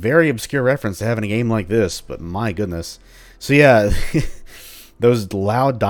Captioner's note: chuckles